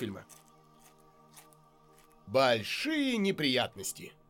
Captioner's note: crunching continues